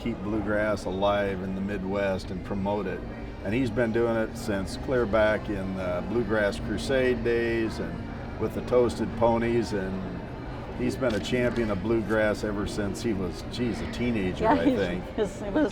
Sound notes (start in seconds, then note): none